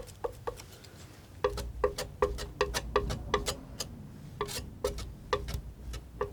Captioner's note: tapping